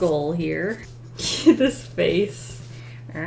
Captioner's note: chuckles